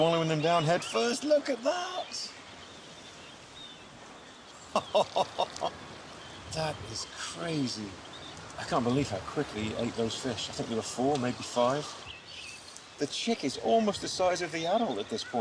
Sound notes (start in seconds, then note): 4.6 laughs